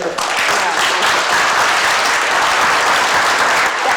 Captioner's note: clapping